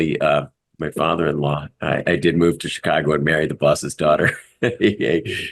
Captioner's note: laugh; laugh